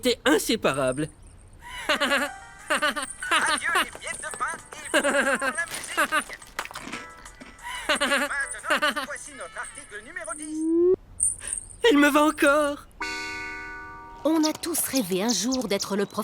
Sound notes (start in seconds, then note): 2.6 laughs